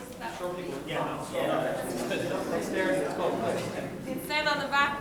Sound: people chattering loudly

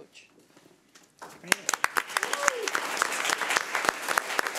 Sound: audience applauding

